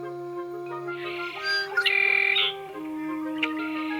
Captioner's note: bird sings